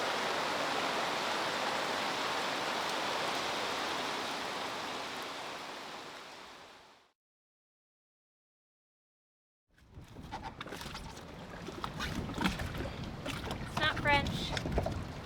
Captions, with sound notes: (water splashing) It's not French.